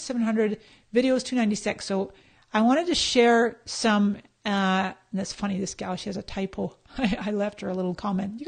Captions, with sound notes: Links 700, videos 296. So I wanted to share some-- And that's funny this gal, she has a type. (laughs) I left her a little comment,